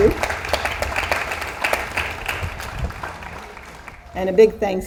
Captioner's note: audience applauds